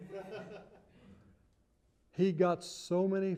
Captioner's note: laughter